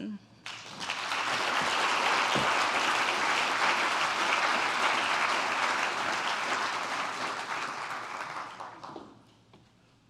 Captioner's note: applause